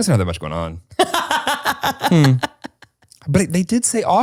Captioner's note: laughs